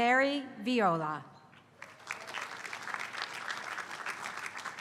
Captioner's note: applause